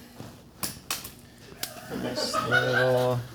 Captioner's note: toy skateboard clapping; crew member laughing